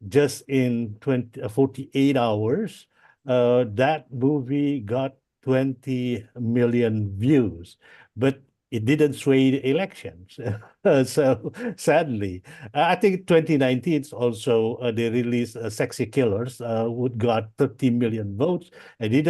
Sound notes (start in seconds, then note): 10.4 laughs